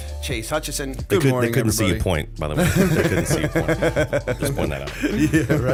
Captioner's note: laughter